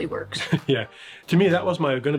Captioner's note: chuckles